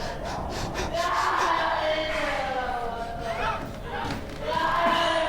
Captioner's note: gasping